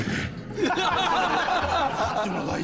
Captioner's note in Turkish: Gülme sesi